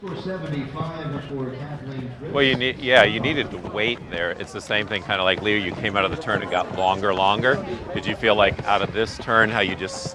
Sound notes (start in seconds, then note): 5.5 announcer over PA